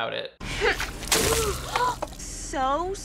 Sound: gasps

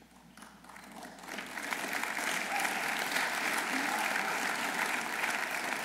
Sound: audience applauding

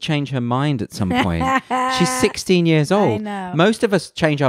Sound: laughs loudly

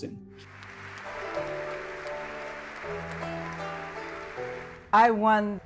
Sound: soft music; audience applauding

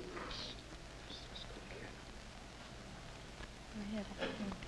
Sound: whispering

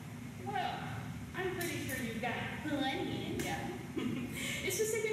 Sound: chuckles

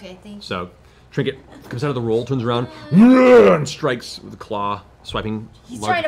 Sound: roars

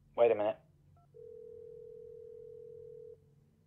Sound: dial tone ringing

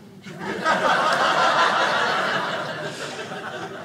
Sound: audience laughing

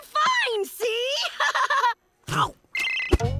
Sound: nervous laugh

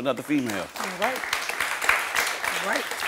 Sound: audience clapping

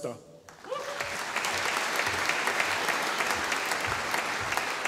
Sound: audience applauding

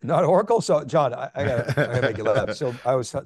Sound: laughing

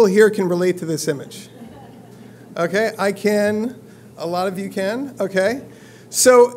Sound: laugh

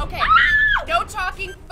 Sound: woman screams

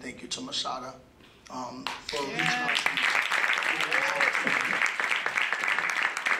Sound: applause

